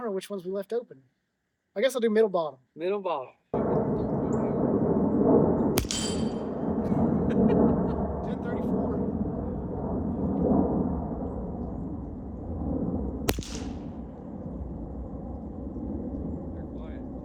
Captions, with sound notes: know which ones we left open. I guess I'll do middle bottom. Middle bottom. [gunshot] [Airplane Noise] 1034.